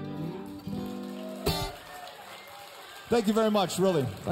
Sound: applause, cheers

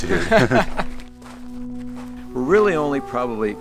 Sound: laughs; man laughing

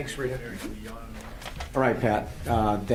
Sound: speaking faintly

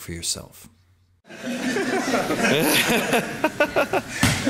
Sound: men laughing

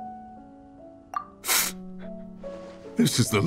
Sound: sob

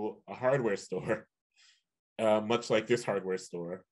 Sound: chuckles

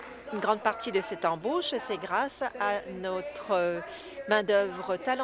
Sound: applause

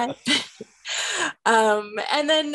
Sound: laughter

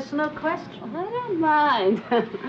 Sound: chuckles

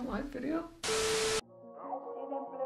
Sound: TV static; mellow alternative music

